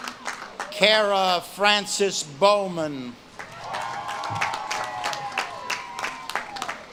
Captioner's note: audience claps and cheers